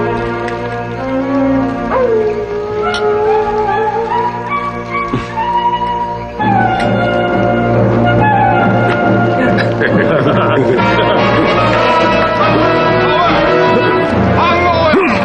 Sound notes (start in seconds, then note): 1.0 coyote howling; 12.0 shouting in native language